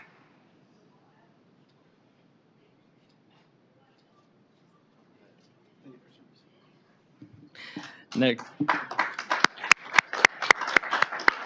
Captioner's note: applause